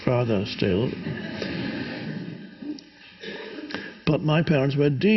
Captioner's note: audience laughs